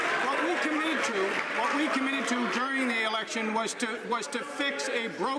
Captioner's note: some Applause